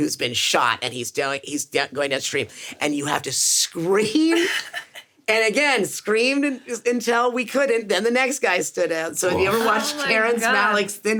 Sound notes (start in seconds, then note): 4.3 Sarah laughs